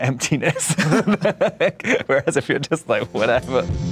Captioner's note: laughs